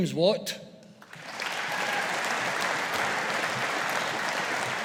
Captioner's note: audience applauding